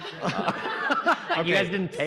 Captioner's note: audience laughing